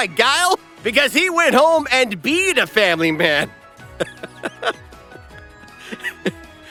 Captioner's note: laughing